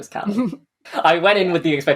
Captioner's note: laughs